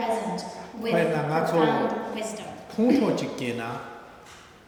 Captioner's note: speaking tibetan